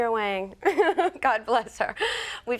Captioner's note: marisa chuckles